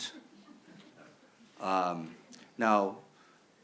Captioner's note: audience member chuckling